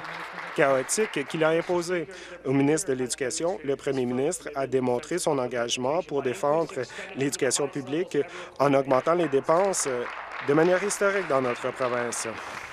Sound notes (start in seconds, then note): 1.6 applause